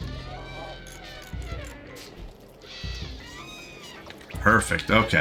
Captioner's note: typing